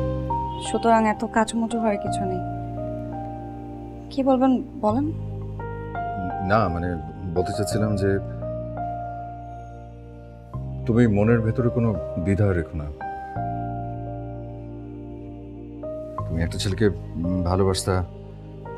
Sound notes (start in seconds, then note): none